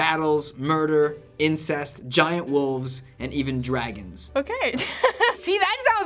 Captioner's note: laughs